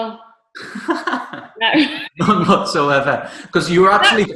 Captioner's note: chuckling